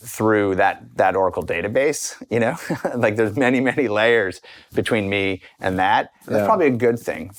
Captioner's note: chuckles